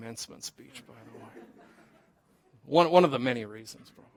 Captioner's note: laughter